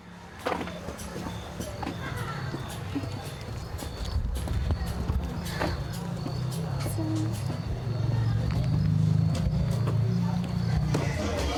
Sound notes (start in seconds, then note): 0.9 crickets chirping; 7.0 speaks in foreign language